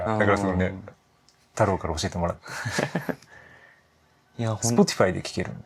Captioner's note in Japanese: 笑い